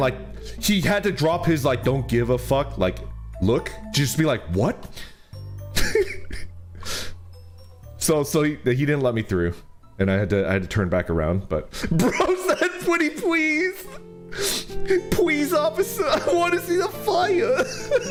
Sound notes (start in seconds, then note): 5.7 chuckles